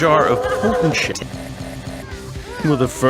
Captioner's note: sipping noises